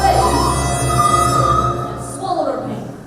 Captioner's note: screams